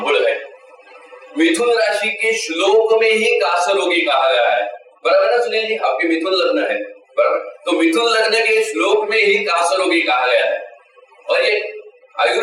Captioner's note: phlegm